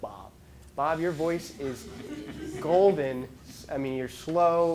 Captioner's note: laughing